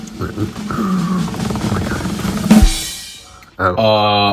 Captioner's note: drum roll; gasps